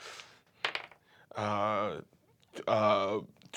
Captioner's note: rolls dice